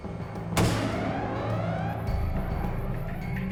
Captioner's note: siren wailing